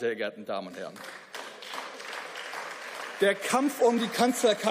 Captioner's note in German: Beifall